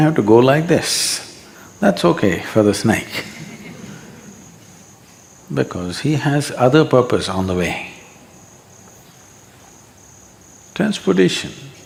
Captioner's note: few laugh